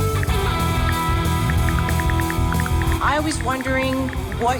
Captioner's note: ticking